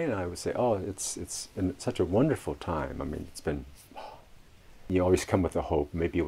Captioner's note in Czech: vydechne